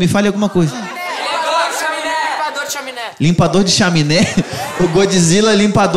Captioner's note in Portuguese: plateia dá sugestões